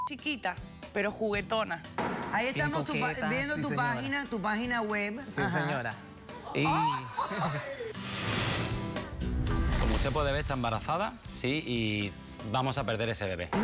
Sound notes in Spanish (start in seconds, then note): 6.4 risas